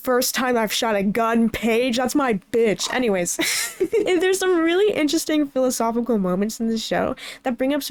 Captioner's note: laughs